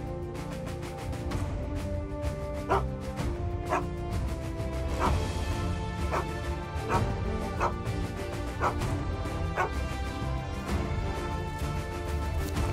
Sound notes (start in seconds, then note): 2.6 Willamina barking; 4.9 upbeat music; 6.0 Willamina barking; 10.0 upbeat music